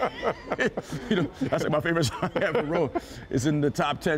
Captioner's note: laughter